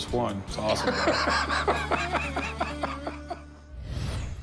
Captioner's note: laughs